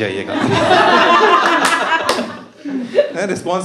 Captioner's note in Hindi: हँसना